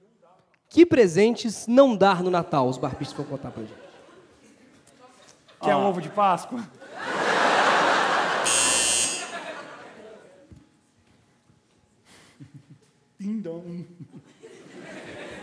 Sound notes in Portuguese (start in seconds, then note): 8.4 campainha